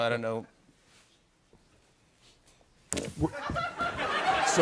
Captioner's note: laughter